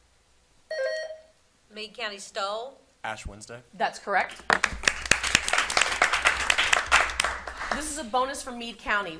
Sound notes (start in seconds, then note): 0.7 buzzer sounding; 4.5 audience applauding